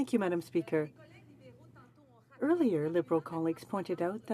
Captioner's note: speaking french